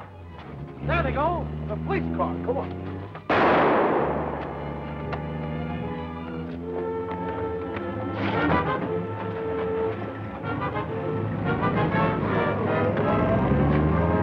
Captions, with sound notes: There they go! - The police car! Come on! (gunshot cracks) (dramatic music)